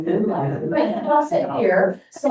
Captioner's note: board members chuckling and speaking indistinctly